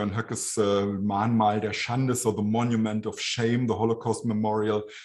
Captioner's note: speaking german